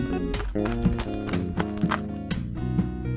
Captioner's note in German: Trittgeräusche; entspannte Musik